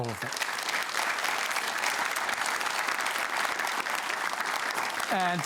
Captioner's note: applause